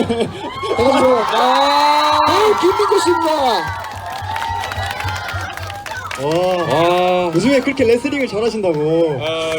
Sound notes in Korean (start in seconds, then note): 2.4 함성